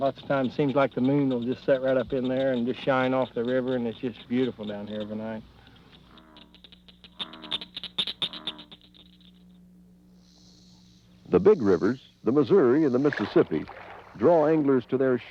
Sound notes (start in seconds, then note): 7.1 nature sounds